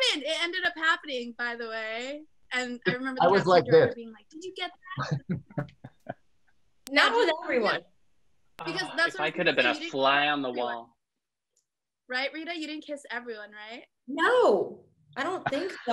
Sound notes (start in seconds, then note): 4.9 laughs